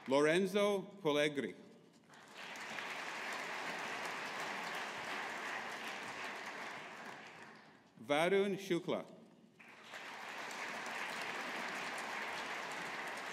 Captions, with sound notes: Lorenzo Polegri. (AUDIENCE APPLAUDING) Varun Shukla. (AUDIENCE APPLAUDING)